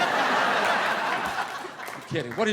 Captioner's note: audience laughing